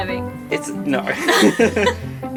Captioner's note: laughs